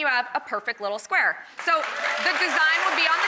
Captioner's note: audience applauding